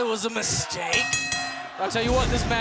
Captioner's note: bell ringing